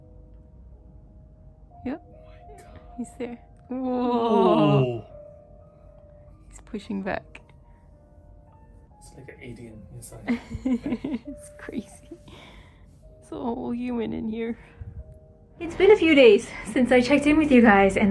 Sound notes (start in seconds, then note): 10.3 laughing